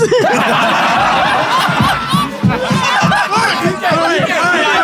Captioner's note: people in room laughing